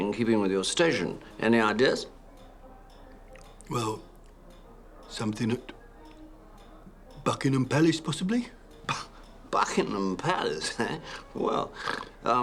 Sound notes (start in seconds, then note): 2.4 scoffs; 3.2 snorts